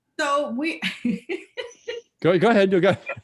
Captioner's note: laughs